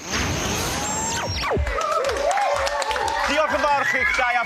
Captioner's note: cheering